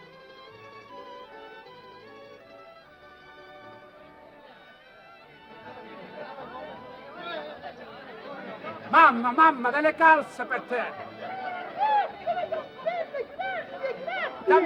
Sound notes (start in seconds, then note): 5.2 people chattering; 10.8 speaking foreign language